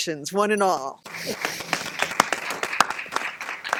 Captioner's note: applause